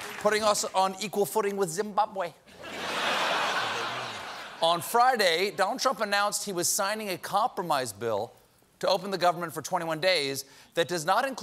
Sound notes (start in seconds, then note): 2.5 laughter